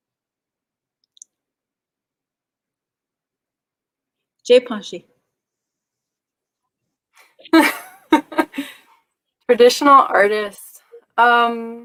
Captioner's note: speaking Dakota